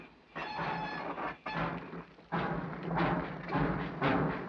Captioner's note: train chugs